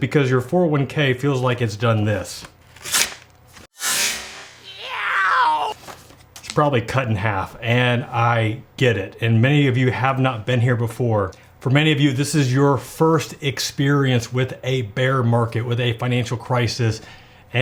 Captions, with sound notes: because your 401K feels like it's done this. (paper tearing) (man crying ow) It's probably cut in half. And I get it, and many of you have not been here before. For many of you this is your first experience with a bear market, with a financial crisis